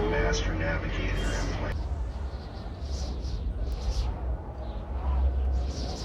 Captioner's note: wind blowing strong outside